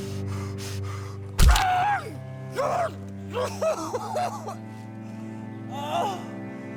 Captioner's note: Arawn panting; rifle thwacks; whimpers; Arawn groaning